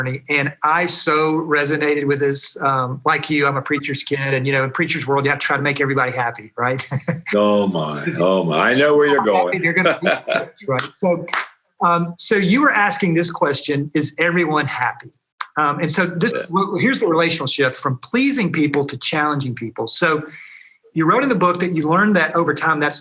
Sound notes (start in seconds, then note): 9.6 chuckles, clapping